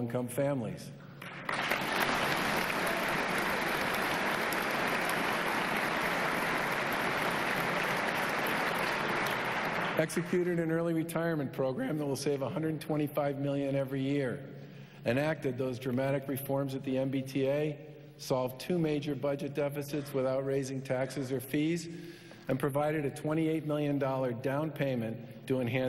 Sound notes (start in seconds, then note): 10.3 applause